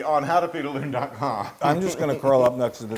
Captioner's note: laugh